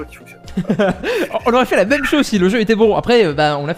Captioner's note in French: rires